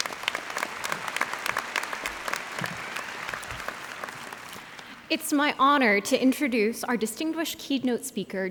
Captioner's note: applause